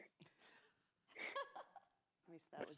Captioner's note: laughs